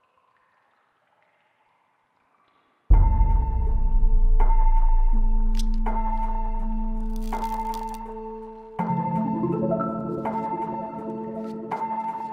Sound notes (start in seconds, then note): 3.1 suspenseful music; 7.0 cards flicking